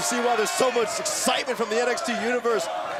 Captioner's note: crowd cheering